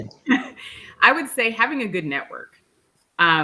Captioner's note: chuckles